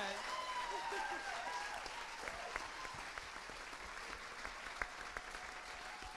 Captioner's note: audience clapping and cheering